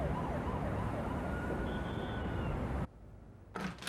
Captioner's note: sirens wailing